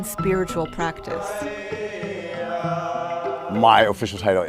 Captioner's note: chanting